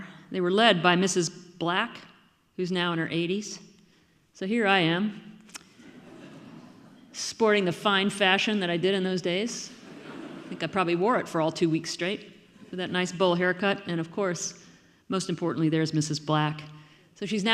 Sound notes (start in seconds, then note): 5.8 audience laughing